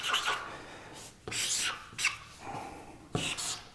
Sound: marker squeaking

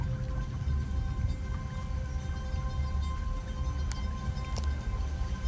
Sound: water rippling

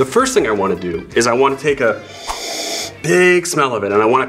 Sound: inhaling

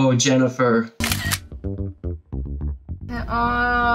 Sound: camera clicks

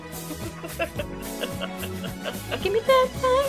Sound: Hyde chuckles madly

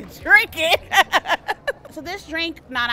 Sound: laughing

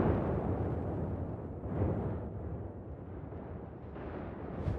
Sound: muffled thunder rumbling

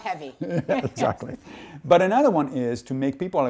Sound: laughing

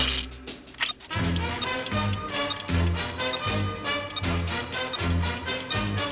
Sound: beeping

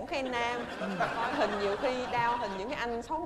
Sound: laughing

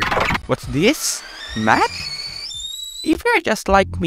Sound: kettle begins whistling

